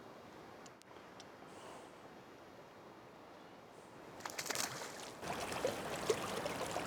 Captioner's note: water splashing; fish slapping